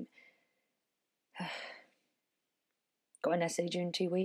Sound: nyx sighs

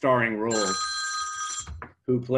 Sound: phone rings

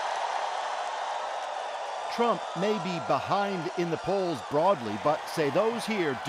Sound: cheers and Applause

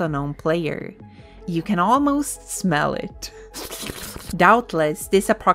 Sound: tongue slurping sound

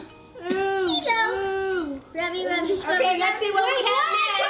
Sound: chattering

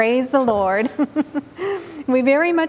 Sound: giggling

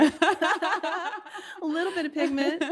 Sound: laughing

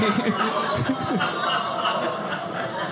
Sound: audience laughing

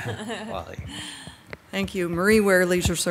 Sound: members softly chuckle

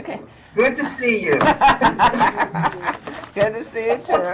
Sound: laughs

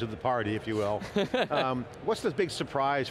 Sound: laughs

